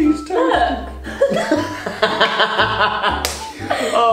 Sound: both laugh

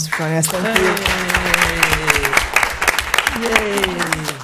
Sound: applause

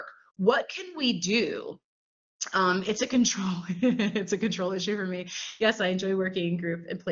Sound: laughter

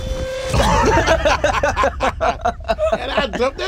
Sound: laughing

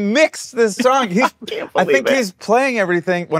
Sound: laughs

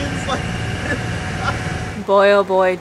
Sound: laughing

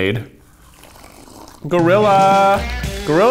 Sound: slurping

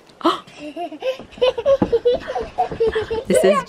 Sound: chuckles

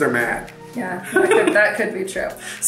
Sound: laughs

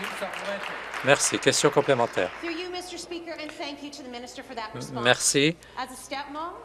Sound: applause

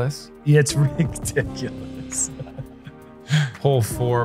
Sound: laughs

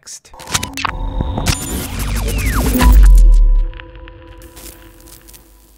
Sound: electrical feedback buzzes

